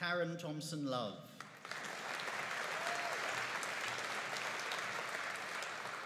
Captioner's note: audience applauding